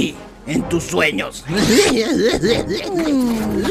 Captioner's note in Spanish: rie burlonamente